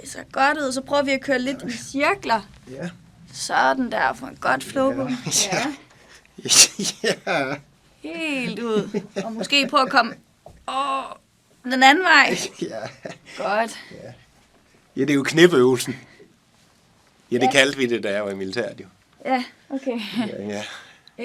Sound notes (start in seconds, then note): 6.4 laughs